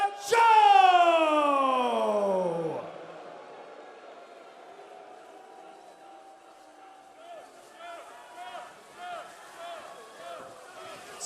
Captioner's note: crowd cheering